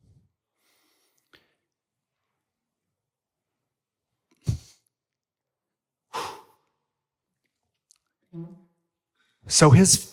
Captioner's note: deep breaths, remembering